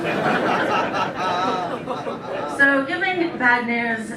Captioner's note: laughter